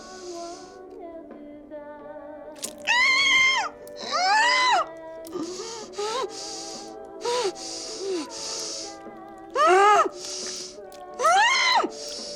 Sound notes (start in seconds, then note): 2.5 flesh tearing; 4.0 muffled screaming